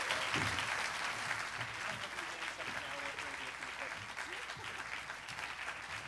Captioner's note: applause